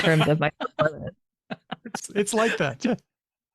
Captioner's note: laughter